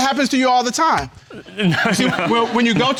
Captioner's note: chuckles